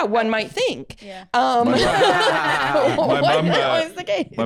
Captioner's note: laugh